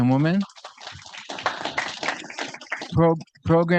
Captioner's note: audience applauding